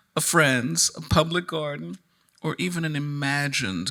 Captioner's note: none